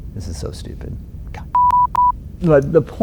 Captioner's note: beep